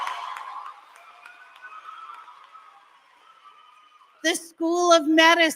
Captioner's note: applause